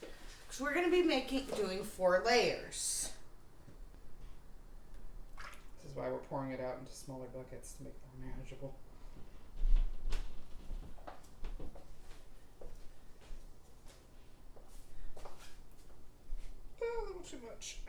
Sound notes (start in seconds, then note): none